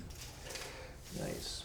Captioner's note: tape measure rattling